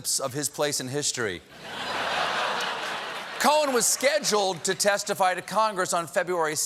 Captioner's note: laughter